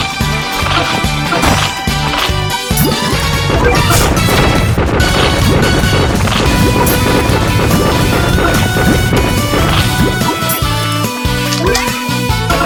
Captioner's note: explosion